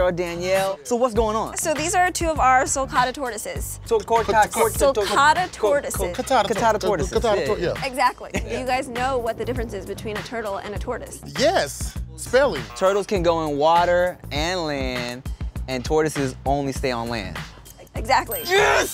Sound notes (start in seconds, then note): 11.1 buzzing